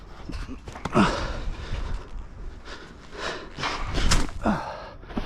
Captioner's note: groaning